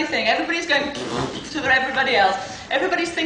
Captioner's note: blowing raspberry